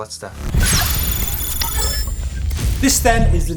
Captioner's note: electronic dinging